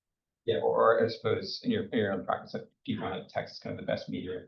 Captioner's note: speaks faintly